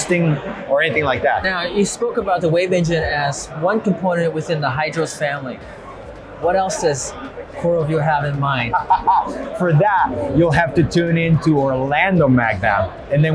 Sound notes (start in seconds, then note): 8.6 laughs